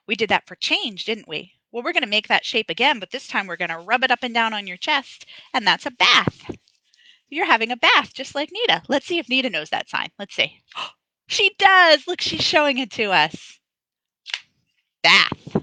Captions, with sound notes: We did that for change, didn't we? Well, we're going to make that shape again but this time we're going to rub it up and down on your chest, and that's a bath. You're having a bath, just like Nita. Let's see if Nita knows that sign. Let's see. (gasps) She does! Look, she's showing it to us. Bath.